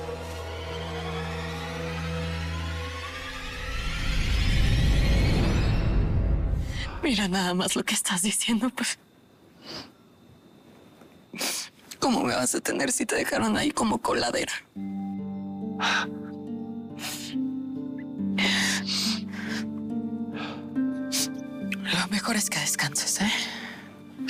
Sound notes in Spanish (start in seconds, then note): 15.7 Sollozos